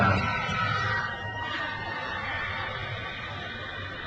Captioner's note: crowd cheers